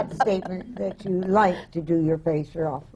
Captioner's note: laughter